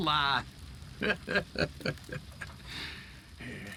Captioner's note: laughs